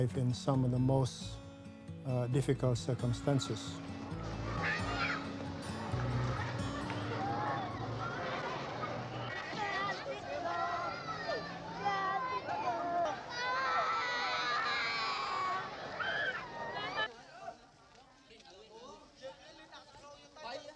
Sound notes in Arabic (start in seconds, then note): 4.4 ثرثرة الأطفال; 4.4 عزف جيتار هادئ; 13.4 طفل يبكي; 17.4 الناس يتحادثون